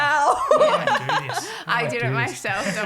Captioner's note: laughing